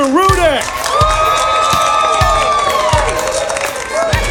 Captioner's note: audience cheers